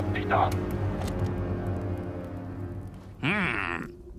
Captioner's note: tape clicks